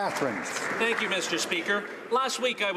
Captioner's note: some Applause